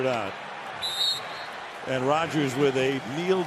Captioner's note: whistles